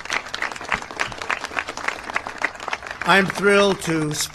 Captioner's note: applause